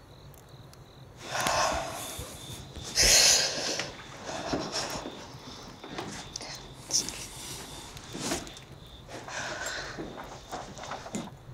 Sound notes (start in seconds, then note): 1.2 exhales; 3.0 deep breathing